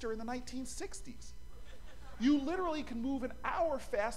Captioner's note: laughter